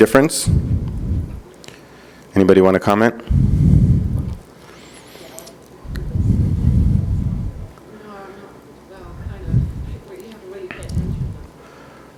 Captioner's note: speaking off microphone